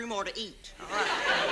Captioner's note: audience laughs